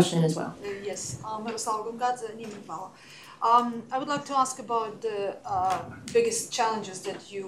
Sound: non-english

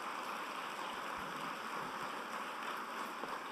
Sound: applause

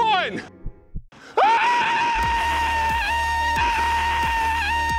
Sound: screaming

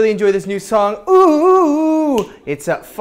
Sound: snap

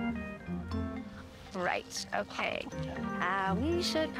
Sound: Jonas sighs

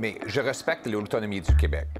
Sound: speaking French

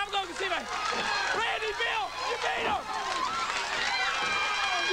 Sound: applause

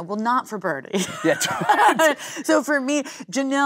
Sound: both laughing

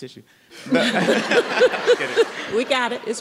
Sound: everyone laughing

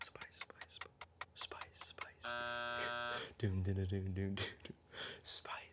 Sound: buzzing

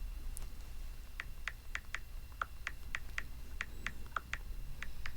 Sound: cell phone keypad touching sound

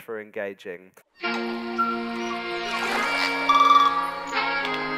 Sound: air whooshing

